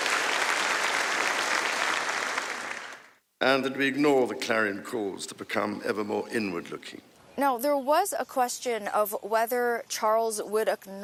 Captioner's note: applause